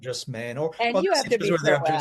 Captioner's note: speaks faintly